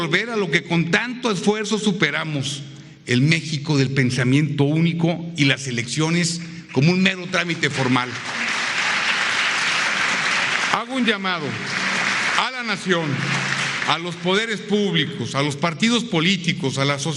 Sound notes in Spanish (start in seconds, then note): 6.6 aplausos